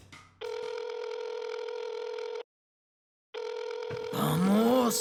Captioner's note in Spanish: Sonido de teléfono marcando